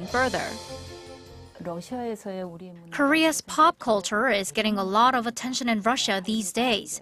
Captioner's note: Korean